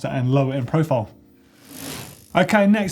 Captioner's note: whoosh